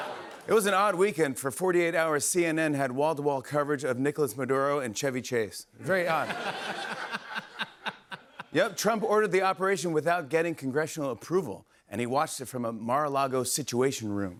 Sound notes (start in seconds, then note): 6.0 laughter